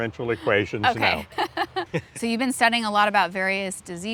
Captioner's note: laughing